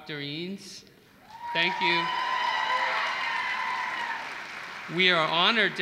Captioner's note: applause